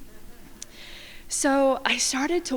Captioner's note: crowd laughing